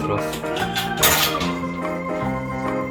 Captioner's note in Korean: 철컹철컹